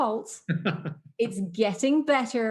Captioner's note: laughs